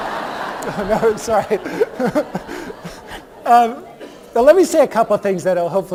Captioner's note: laughter